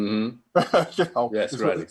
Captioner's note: chuckling